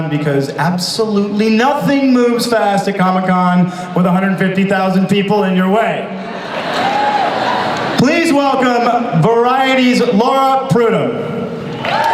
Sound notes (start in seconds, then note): 6.1 audience laughs; 11.6 audience cheers